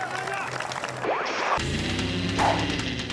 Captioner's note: crowd cheering; transition whooping; upbeat music